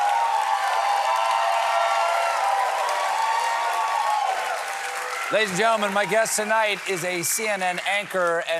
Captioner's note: cheering